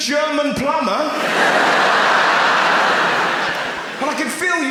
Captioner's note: audience laughs